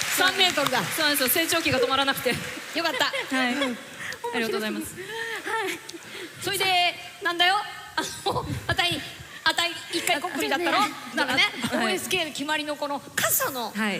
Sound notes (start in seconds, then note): 4.3 struggling to speak